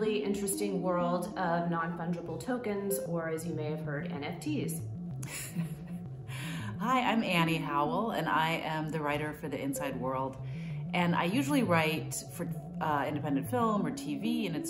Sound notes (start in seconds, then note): 5.2 laughing